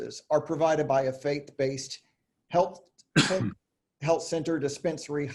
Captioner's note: coughing